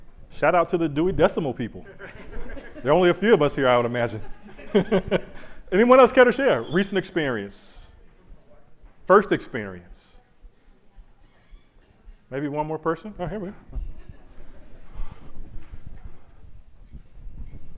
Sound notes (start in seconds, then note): 4.1 chuckles